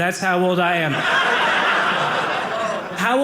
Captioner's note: audience laughing